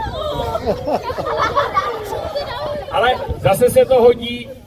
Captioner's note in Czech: údiv, smích